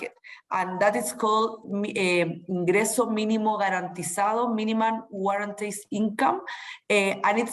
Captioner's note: spanish